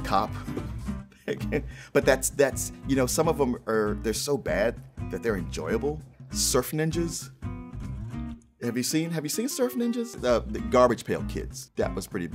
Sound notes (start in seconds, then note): 1.2 laughs